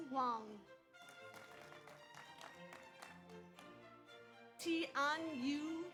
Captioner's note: audience applauds